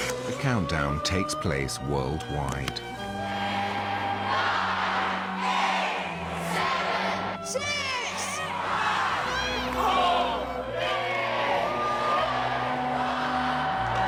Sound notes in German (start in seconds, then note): 10.6 rufen in fremdsprachen